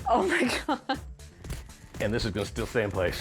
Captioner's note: chuckles